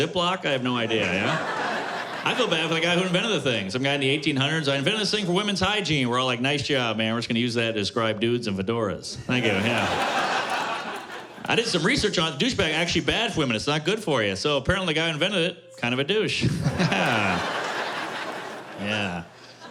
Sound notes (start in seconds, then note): 9.2 laughter; 16.4 laughter